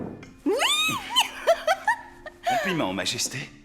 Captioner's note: laughs